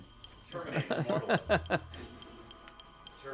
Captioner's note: laughing